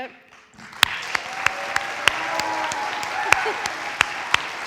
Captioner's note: audience applauds